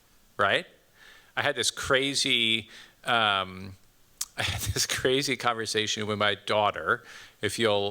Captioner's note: chuckles